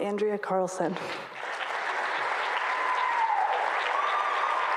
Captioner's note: audience applauding